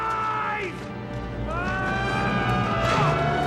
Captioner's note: yells